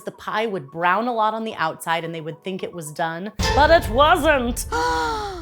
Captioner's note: gasp!